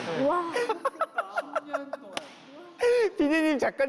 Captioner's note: laughing